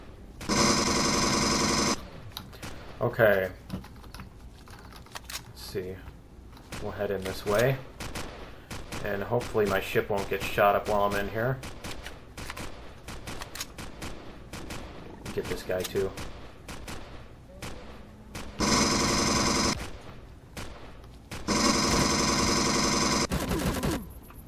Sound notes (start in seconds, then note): 0.0 weapon clicks; 0.4 incoming fire; 0.4 pulse rifle firing; 5.7 shots continue; 12.7 gunfire continues; 15.0 alien growling; 17.7 incoming rapid fire; 17.7 incoming shots; 17.7 pulse rifle; 24.2 incoming rapid fire; 24.2 pulse rifle